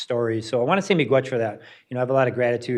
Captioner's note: speaks in foreign language